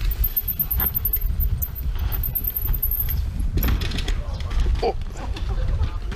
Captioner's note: bicycle wheels sliding on rock